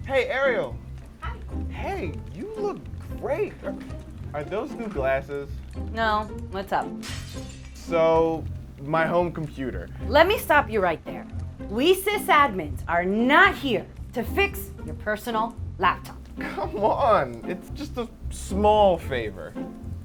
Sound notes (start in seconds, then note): 7.0 glass shatters